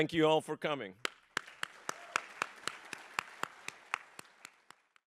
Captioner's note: applause